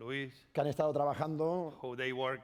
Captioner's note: speaking spanish